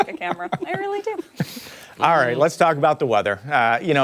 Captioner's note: laughter